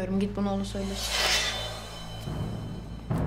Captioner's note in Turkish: Kılıç sesi